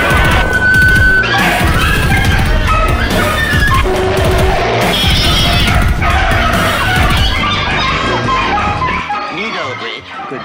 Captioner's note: dog & Cats Bark & Meow